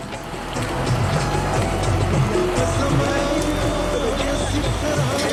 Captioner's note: bus engine roaring; pakistani music continues